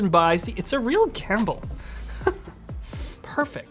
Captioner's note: chuckles